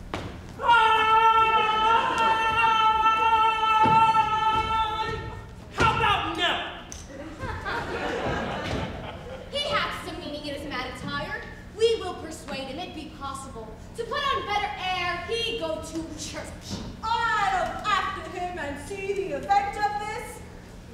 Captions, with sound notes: (Grumio shouting) - How 'bout no? (audience laughs) - He hath some meaning in his mad attire. We will persuade him, it be possible, to put on better ere he go to church. - I'll after him, and see the event of this.